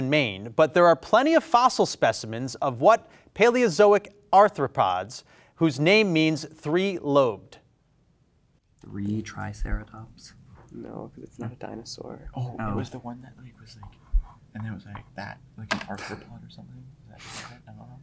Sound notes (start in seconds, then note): 15.9 laughs